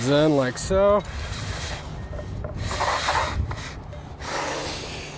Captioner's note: metal slides